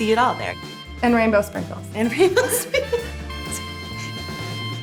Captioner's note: laughs